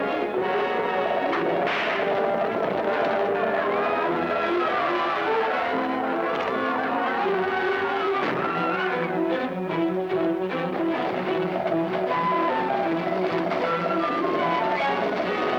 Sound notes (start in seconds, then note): 1.6 whip cracking; 8.4 gunshot booming; 9.5 suspenseful music